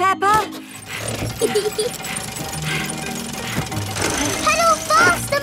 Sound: mummy pig panting; peppa laughing

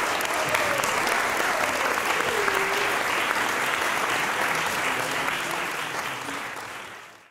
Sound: applause

